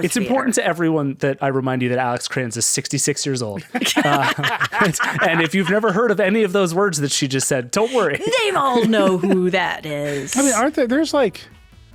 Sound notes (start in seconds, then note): 3.6 laughing